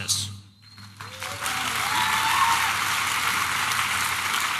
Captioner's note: applause and cheering